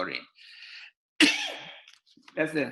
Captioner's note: sneezing